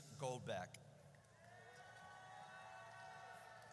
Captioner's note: audience cheers